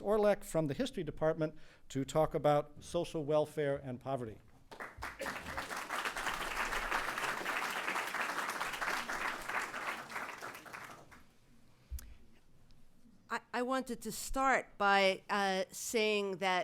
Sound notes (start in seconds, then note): 4.7 applause